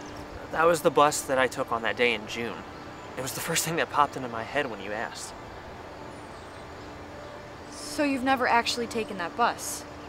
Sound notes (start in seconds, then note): none